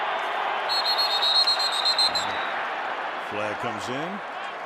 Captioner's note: whistling